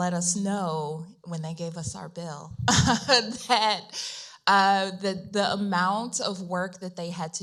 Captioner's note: chuckles